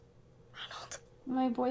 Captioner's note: whispers